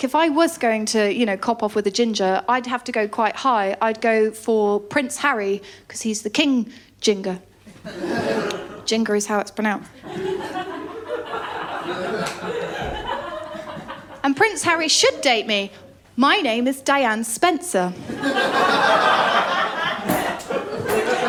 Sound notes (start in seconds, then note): 7.8 laughter; 10.0 laughter; 18.0 laughter